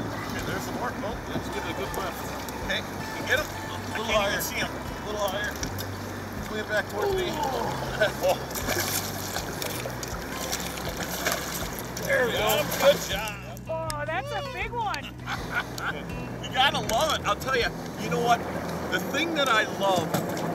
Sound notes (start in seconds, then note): 7.2 grunting; 8.3 water splashing; 14.2 laughing